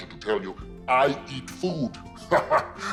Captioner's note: chuckles